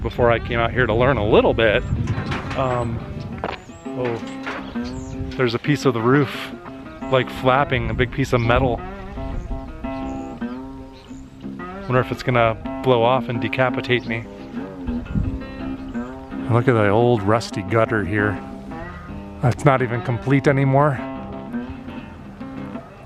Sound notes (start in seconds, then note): 2.6 metallic banging noise